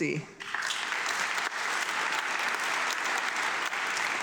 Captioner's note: audience clapping